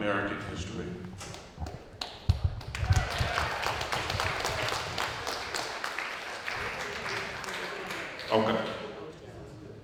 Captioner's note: applause